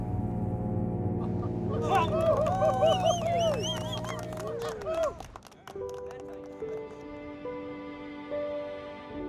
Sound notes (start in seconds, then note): 1.7 cheering, applause